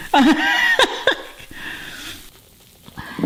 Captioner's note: laughing